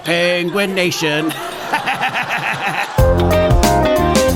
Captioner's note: laughs